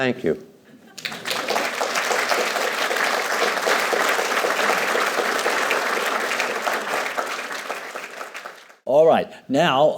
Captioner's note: applause